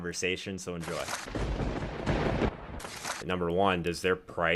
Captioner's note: lightning striking